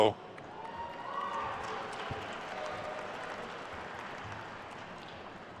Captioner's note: attendees cheering and applauding